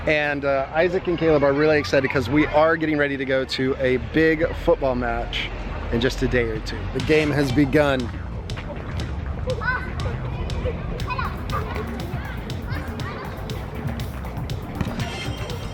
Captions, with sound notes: and Isaac and Caleb are really excited 'cause we are getting ready to go to a big football match in just a day or two. The game has begun. (upbeat music) (children yelling out)